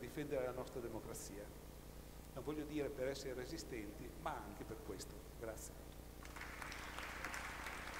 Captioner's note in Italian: Applauso